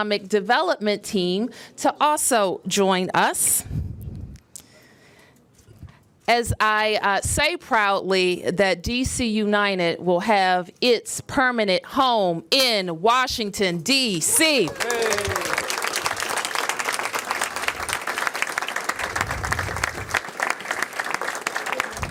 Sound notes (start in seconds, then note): 16.1 cheers and applause